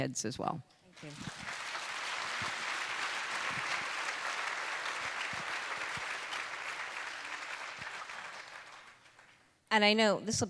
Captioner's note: applause